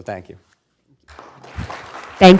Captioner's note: applause